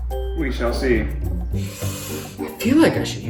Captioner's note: sigh